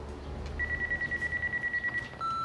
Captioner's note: phone ringing